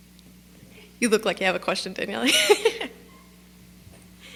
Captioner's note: laugh